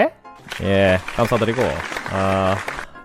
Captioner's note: applause